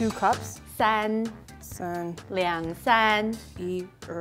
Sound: speaking in mandarin

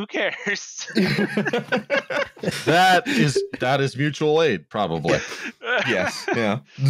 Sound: laughter

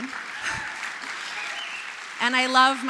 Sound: applause

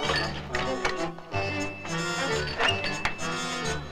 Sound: cart creaks

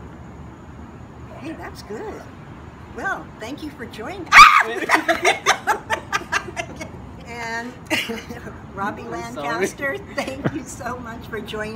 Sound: scream

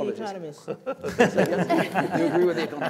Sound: laughter

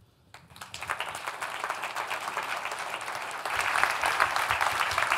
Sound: audience applauds

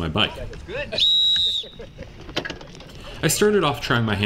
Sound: race whistle blows

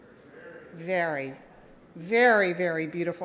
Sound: audience mumbles

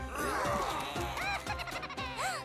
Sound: groaning; giggling; gasps

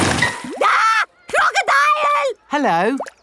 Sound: screams

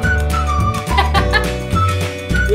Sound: laughter

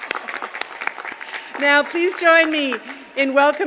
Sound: applause

